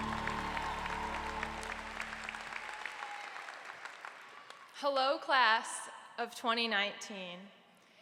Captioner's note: applause